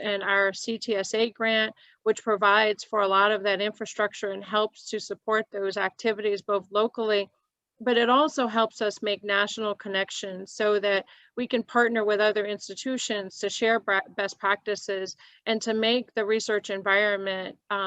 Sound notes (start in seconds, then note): none